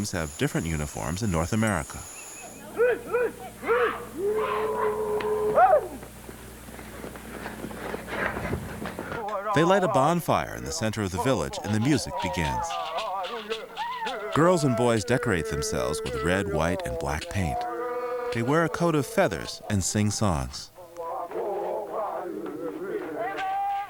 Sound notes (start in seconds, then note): 4.9 shouting in native language